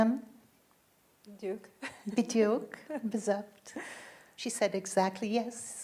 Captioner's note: speaking in foreign language